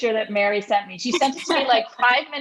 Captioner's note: laughing